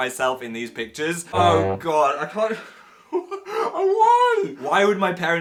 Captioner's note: laughs